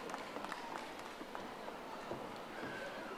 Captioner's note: audience applauding